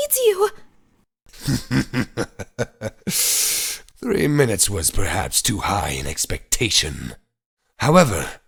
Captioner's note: chuckling